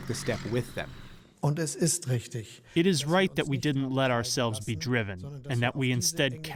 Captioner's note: through translator